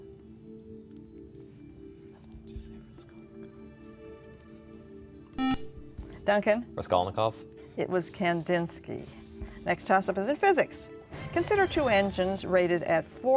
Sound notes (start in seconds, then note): 5.4 buzzer